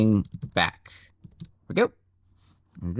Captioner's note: keyboard clicking